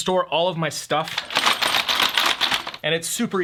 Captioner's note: rattling